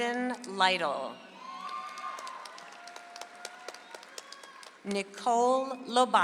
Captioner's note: audience applauds